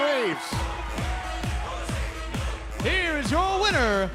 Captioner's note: bell ringing